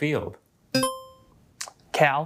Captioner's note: buzzer chimes